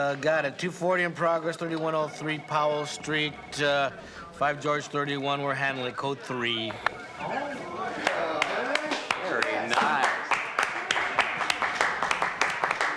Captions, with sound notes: (sighs) Uh, got it. 2-40 in progress, 3103 Powell Street. Uh, Five George 31. We're handling a Code Three. (murmuring) Yes. Very nice.